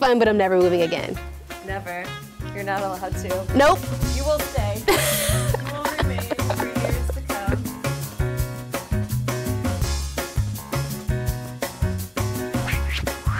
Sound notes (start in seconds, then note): 1.7 woman's Voice; 4.9 laughs; 8.3 gentle music